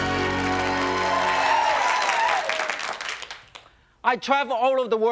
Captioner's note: crowd cheering